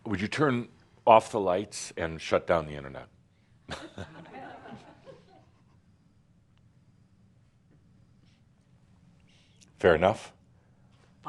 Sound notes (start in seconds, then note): 3.7 room goes dark, some chuckles